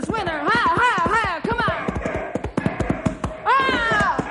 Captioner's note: bim cheering